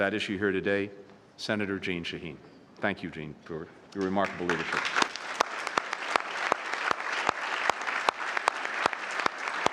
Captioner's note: applause